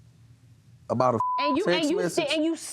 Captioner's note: beep